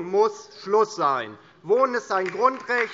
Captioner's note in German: Beifall DIE LINKE